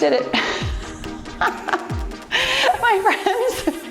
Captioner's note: laughs